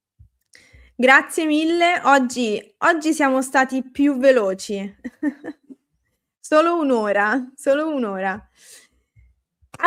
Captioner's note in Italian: risate